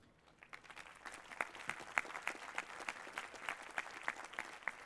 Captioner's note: applause